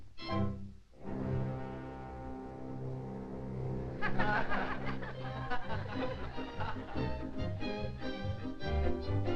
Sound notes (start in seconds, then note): 3.9 audience laughing; 6.3 energetic music